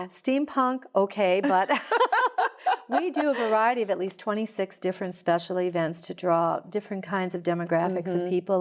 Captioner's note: laughter